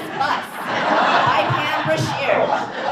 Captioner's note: audience laughs